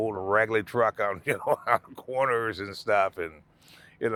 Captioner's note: laughing